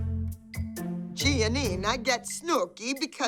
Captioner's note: Italian accent